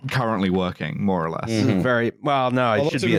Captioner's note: sounds of agreement